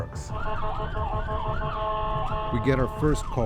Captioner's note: sirens blaring